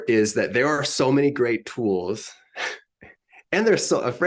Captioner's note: chuckles